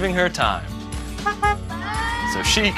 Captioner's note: honk, honk